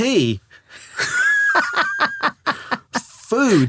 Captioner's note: laughing